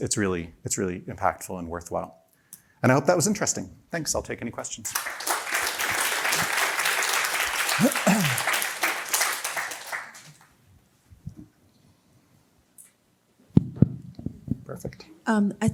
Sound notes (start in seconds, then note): 4.8 applause